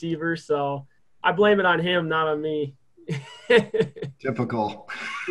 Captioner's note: laughs